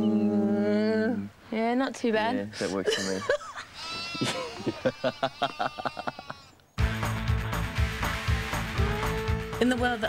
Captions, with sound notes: - Mmm. - Yeah not too bad. - Yeah, that works for me. (laughs) (adventurous music)